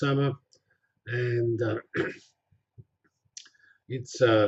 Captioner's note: pause